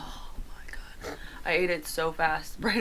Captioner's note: giggles